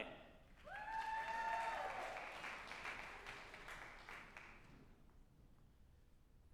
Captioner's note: group applauding and cheering